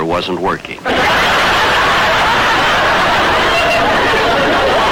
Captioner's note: audience laughter